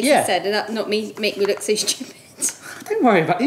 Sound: laughs

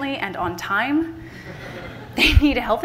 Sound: laughter from the audience

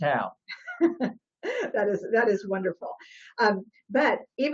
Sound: laughs

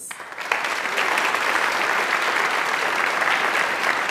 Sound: audience applauds

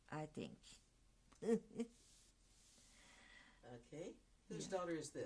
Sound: laughs

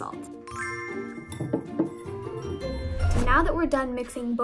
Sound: bell chimes

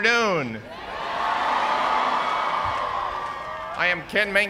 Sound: cheers and applause

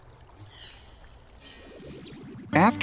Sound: light buzzing

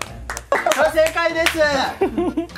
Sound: haha

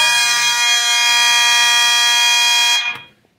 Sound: constant horn and high-pitched electronic sounder

